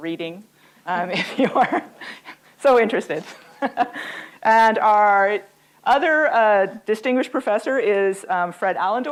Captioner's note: laughs